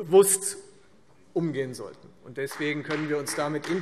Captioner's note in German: Beifall Freie Demokraten